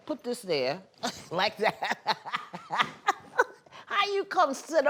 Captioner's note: laughing